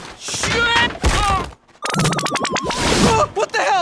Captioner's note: falls with a thud